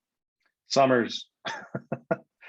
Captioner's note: laughs